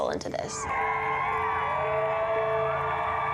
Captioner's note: crowd cheering